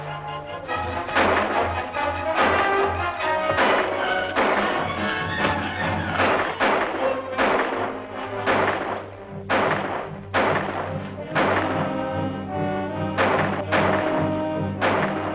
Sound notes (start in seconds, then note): 5.5 thud